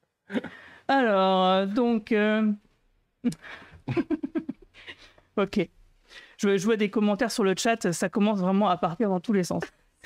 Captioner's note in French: rires